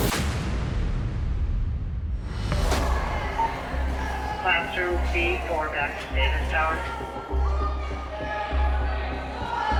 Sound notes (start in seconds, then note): 2.6 inmates chatter; 7.2 tense music